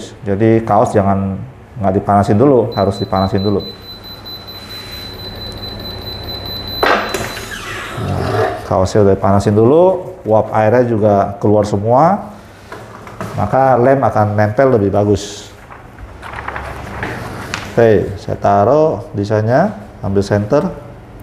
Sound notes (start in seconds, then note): 2.6 beeping sound; 6.6 press machine noise; 15.6 PET film noise